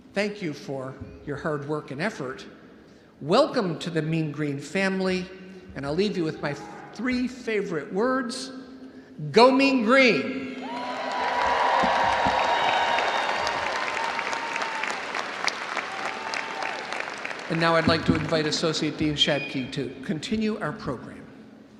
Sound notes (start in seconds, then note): 10.5 audience cheering; 10.6 audience applauding